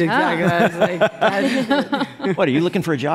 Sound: laughter

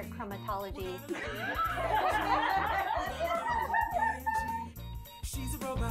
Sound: laugh

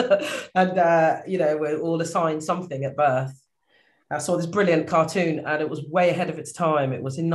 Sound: laughs

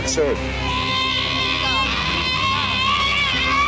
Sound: yelling

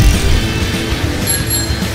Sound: bike bell

